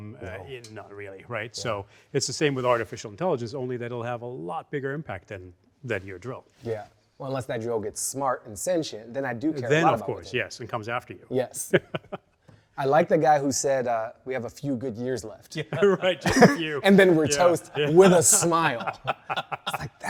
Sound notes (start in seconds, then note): 15.7 everyone laughing